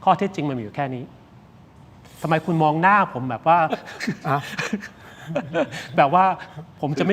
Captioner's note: laughter